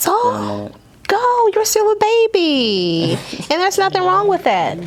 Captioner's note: Alex chuckles